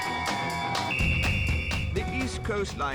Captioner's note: hen party cheering; whistle blows